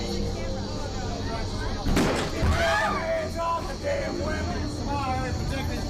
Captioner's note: bangs